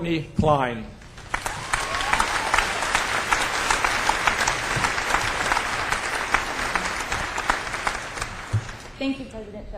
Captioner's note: applause